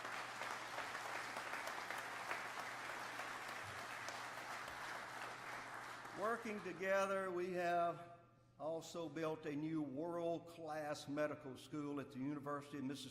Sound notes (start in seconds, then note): 3.0 applause